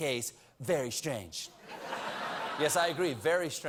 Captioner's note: laughter